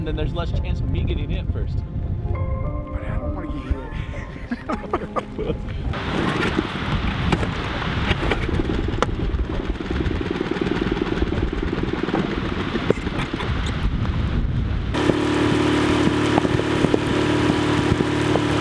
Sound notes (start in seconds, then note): 3.6 both laugh; 8.5 engine splutters; 13.3 heavy wind; 14.6 engine roars loudly